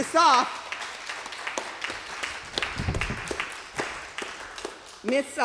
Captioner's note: applause